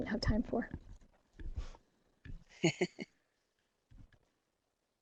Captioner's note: giggles